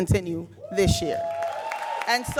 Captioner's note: audience cheering and applauding